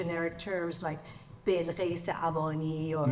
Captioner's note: speaks in foreign language